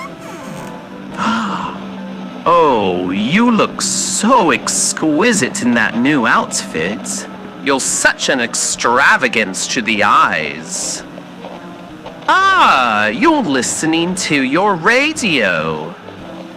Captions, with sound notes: (gasp) Oh, you look so exquisite in that new outfit! You're such an extravagance to the eyes. Ah, you're listening to your radio!